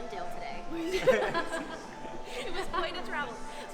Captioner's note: laughing